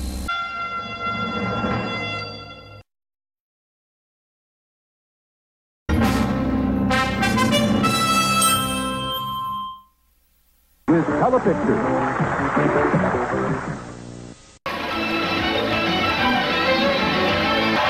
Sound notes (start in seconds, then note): 3.0 silence; 5.9 retro fanfare plays; 11.6 audience clapping